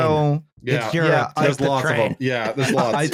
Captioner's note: laughs